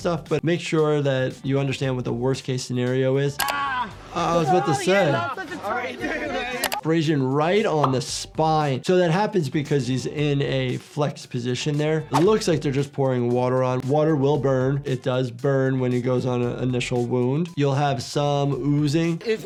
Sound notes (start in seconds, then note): 3.4 screaming; 5.7 multiple people talking